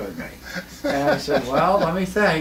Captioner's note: laughing